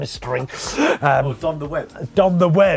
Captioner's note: laughing